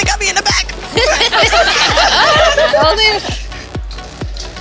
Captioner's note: laughter